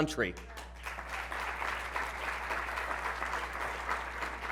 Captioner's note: applause